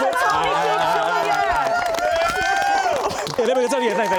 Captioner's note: applause